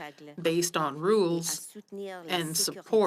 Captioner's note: speaking French